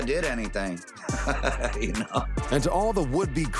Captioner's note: chuckles